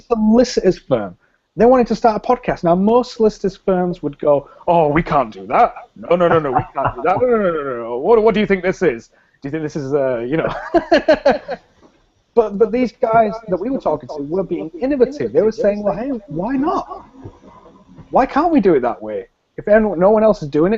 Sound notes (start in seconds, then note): 10.4 both laugh